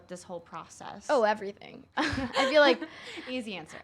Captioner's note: interviewers laughing